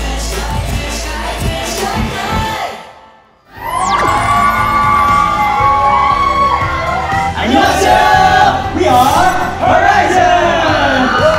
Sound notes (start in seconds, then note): 3.6 cheers